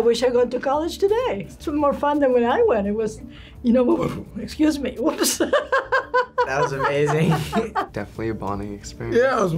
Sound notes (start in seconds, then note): 3.9 burps; 5.2 laughs